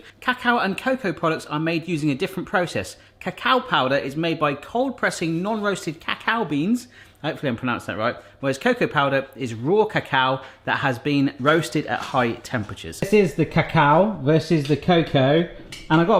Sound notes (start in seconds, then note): none